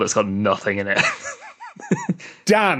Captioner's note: giggles